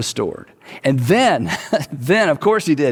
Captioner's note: chuckles